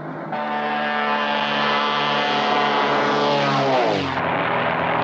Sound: plane zooms

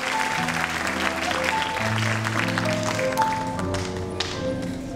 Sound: audience cheering and clapping

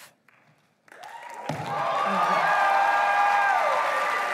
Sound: applause

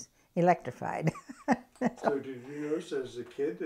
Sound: laughs

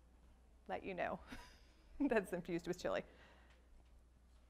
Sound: laughs

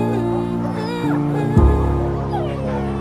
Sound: sound dog

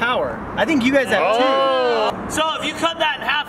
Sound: crowd

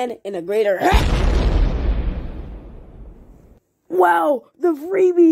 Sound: booooooom!!!!

